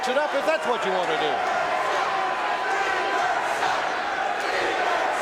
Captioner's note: audience cheering